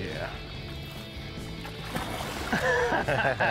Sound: laughs

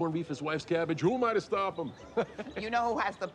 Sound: chuckles

